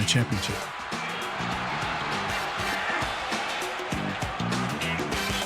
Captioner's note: crowd cheering